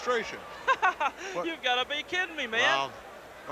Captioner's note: laughs